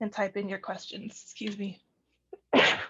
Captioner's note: sneezes